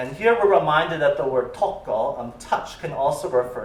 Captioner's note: non-english